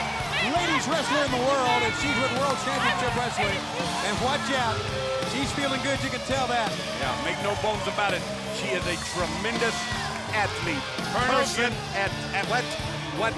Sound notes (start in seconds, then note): 2.5 crowd cheering